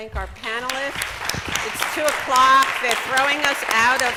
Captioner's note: applause